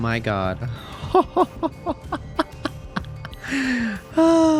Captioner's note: laughs